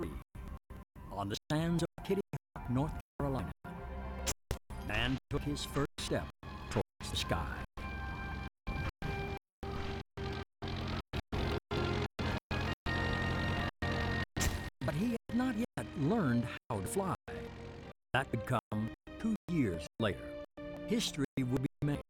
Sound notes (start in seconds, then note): 8.5 airplane engine roars